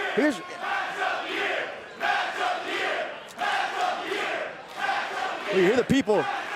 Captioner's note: crowd cheering